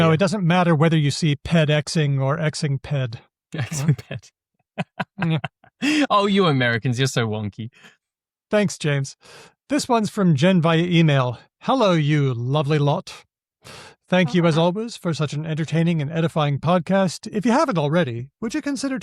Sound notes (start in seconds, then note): 4.8 laughs